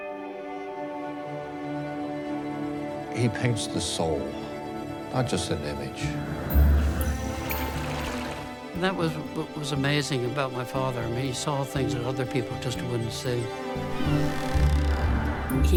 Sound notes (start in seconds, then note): 0.3 gentle music; 8.4 water trickling